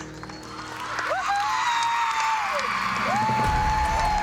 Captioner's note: applause and cheering; Abby Lee whooping